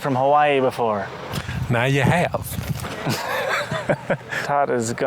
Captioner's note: in a Southern accent; laughs